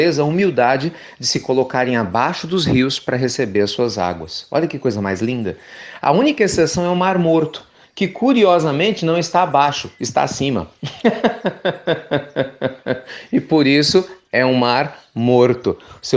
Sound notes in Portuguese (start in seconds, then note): 10.8 Risos